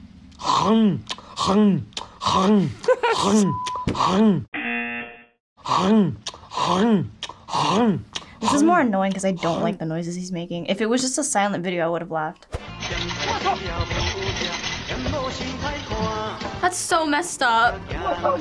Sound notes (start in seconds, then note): 2.4 laughs; 3.5 buzzer; 5.2 voice-over; 12.8 chinese music